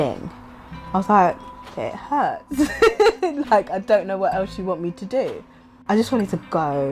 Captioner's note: laughs